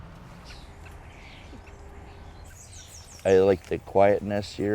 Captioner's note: birds chirping